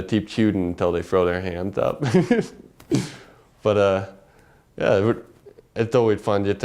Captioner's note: laugh